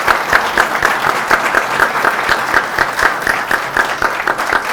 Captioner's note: audience applauding